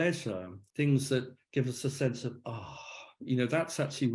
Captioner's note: sighs